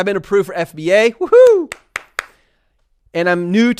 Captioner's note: applauds